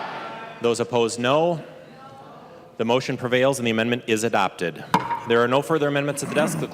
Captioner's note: chorus of ayes